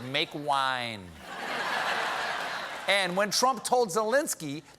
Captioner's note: laughter